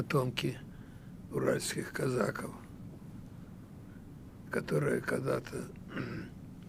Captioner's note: clears throat